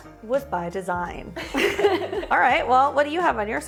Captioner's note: both laugh